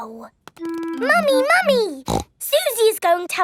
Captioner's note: snorts